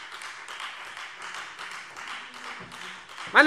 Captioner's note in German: Beifall Freie Demokraten